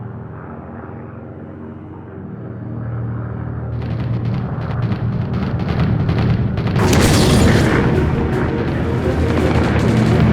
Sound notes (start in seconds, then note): 0.2 dramatic music; 4.6 gunshot fire; 6.8 bomb explodes; 10.1 gunshot fire